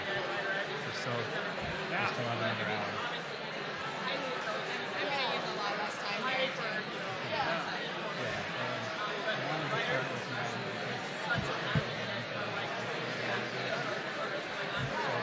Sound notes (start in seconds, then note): 2.9 crowd noise